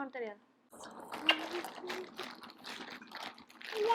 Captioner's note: in foreign language; kiss